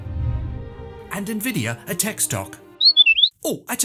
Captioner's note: whistle